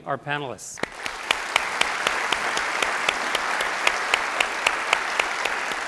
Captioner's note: audience applauding